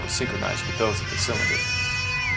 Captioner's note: bosun whistle